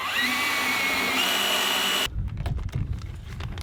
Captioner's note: sawing